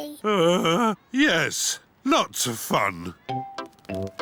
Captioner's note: groans